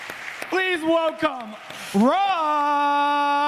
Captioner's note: applause